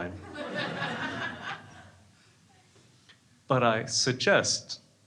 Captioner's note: crowd laughing